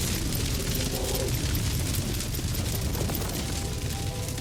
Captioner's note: wind whistles over roaring flames; light music